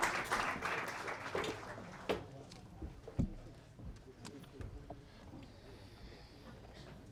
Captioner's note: applause